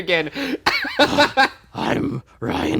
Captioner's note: laughing